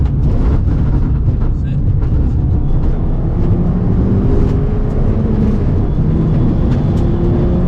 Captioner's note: engine rumbling